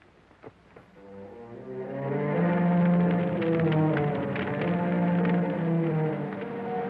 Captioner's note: suspenseful music; fire crackling